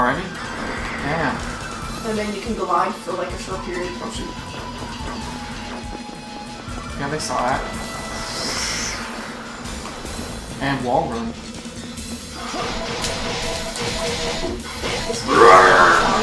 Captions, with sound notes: I love the wall jump, it's so useful. We got 7 already?! Damn - And then you can glide for a short period Oh shit Yeah they saw it. *Flying sound effects* And wall run